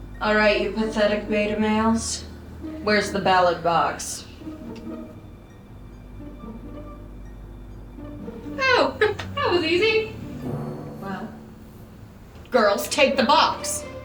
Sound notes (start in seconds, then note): none